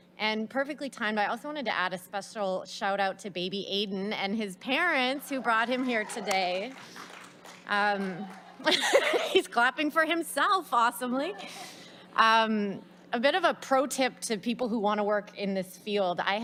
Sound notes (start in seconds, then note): 6.8 audience applauds; 8.2 laughs